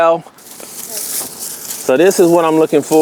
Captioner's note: foliage rustling